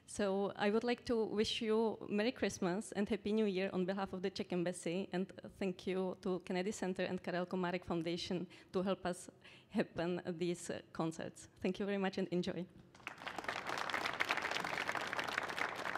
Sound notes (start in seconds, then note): 12.9 applause